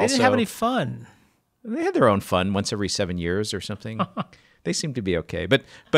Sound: laughs

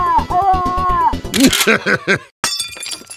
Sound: Pyro shouting; gun cocks; chuckles; glass shatters, Pyro mumbles

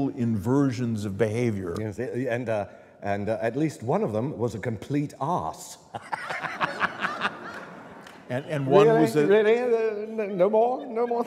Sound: laughter

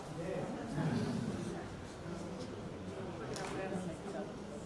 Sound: audience chatters

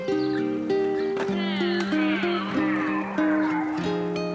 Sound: skatepark ambiance

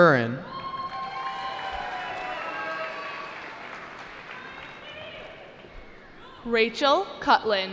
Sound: cheering

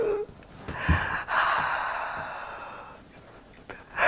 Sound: strangled Noise; intake of breath

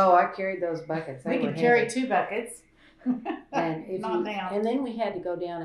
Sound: laughter

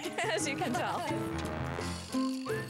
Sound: chuckling

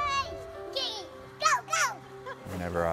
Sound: laughs

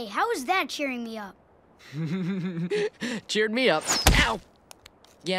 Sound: laughing

